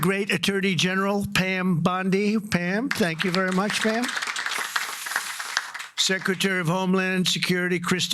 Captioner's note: applause